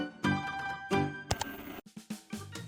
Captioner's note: static; ka-chunk